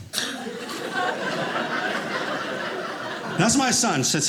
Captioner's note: audience laughing